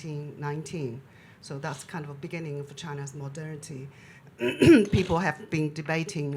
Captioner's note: clears throat